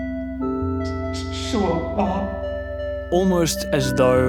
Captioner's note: in mandarin